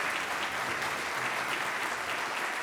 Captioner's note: applause